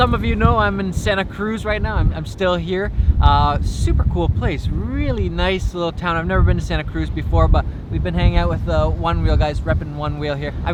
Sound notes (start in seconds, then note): none